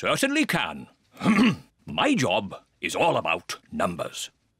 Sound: clears throat

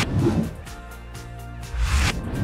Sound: upbeat music continues; air whooshing

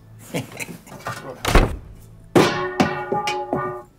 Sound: chuckles

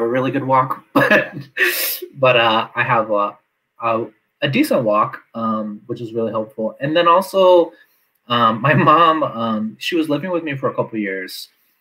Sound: laughs

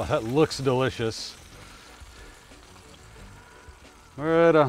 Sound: fish sizzling

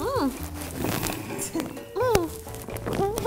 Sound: more mic rubs and "omg I can't" giddy giggles; mic rubs and teeheh

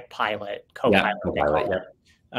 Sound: panel assenting

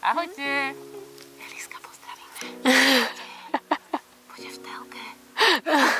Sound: whisper

